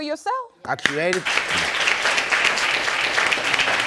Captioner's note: applauding